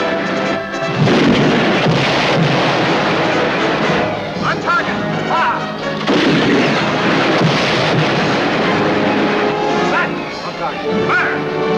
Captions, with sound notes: (cannon booming) (explosion) - On target. - Fire! (cannon booming) (explosion) Set! - On target. - Fire!